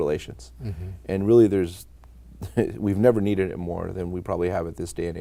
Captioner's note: laughing